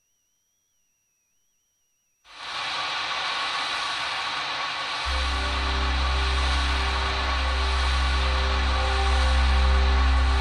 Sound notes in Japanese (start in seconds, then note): 2.3 激しく降り続ける雨の音：ザァー･･･; 10.1 不穏なbgm